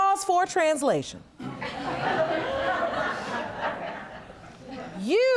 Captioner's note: audience laughs